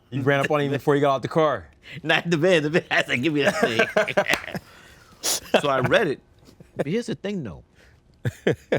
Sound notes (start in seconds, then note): 3.2 both laughing